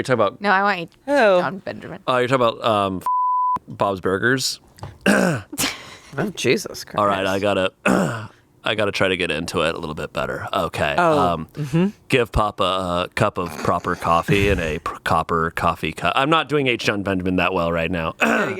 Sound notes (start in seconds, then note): 3.0 beep; 5.0 clears throat; 7.8 clears throat